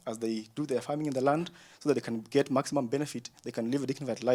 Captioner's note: none